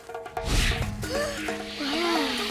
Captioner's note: gasping